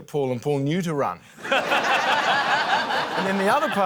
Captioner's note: laughter